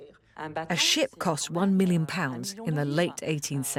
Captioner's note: voiceover